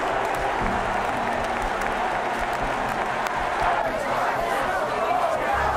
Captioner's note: crowd cheering and jeering